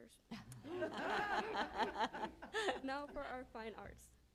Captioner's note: laughter